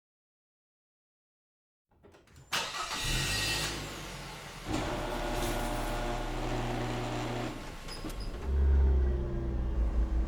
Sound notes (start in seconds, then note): 2.5 car engine starting; 4.9 garage door whirring